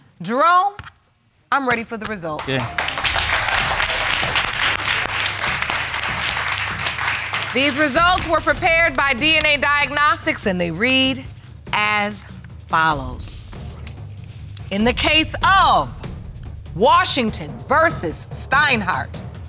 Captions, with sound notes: Jerome, I'm ready for the results. Okay. (AUDIENCE APPLAUDS) These results were prepared by DNA Diagnostics and they read as follows. In the case of Washington v. Steinhart...